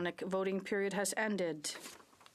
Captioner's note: speaking French